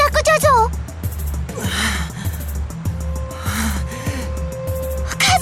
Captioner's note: labored breathing